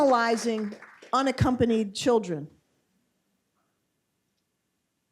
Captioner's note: applause